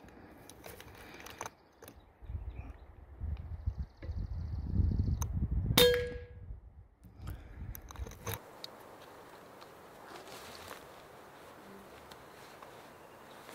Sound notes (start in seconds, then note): 5.8 shot fired